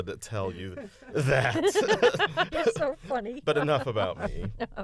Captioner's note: laughter